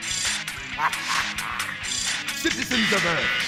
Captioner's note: chuckles